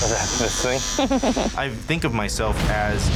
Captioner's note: client chuckling